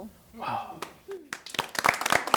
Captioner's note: applause